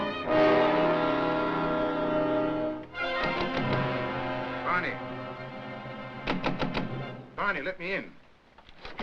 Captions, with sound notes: (knocking on door) - Barney. (knocking on door) Barney, let me in.